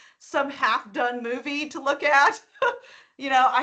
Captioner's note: laughing